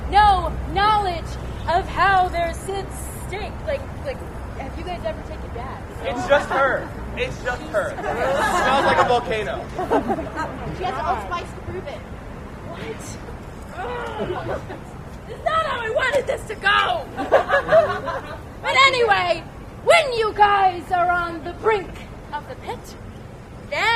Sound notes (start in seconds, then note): 9.6 laughter; 17.1 laughter